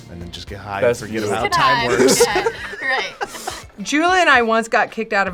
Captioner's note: both laugh